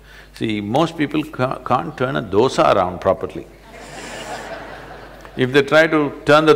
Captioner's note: laughter